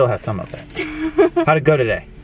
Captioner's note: giggles quickly